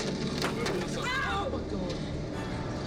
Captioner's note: woman shouts